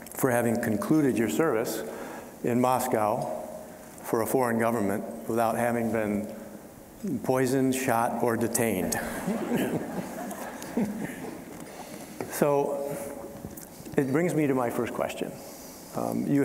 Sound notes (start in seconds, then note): 9.0 all chuckling